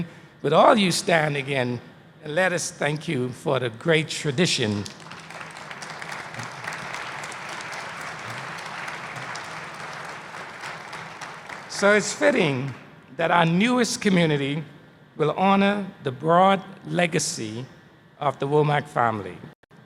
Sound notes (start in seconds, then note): 4.6 applause